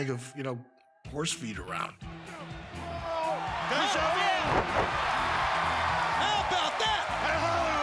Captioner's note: applause